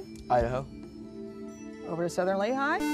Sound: buzzer

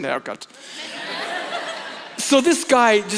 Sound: congregation laughs

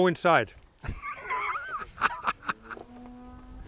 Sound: laughs

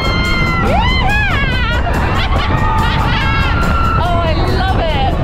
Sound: laughs

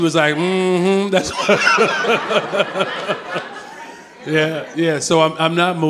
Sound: Brandon and audience laughing

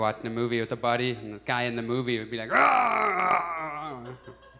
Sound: growling sound

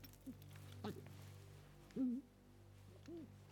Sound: whimpering

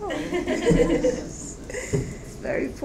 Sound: audience laughs

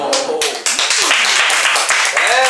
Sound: clapping

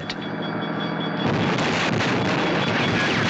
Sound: gunshots

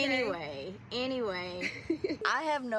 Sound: Kristy giggles

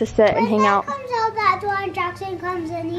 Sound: babbling

